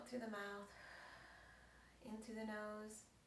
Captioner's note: exhales